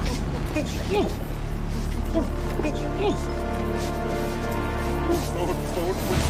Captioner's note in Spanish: Exclamaciones ahogadas